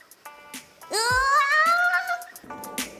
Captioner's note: squealing; light music